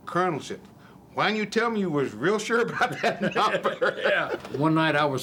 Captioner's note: laughing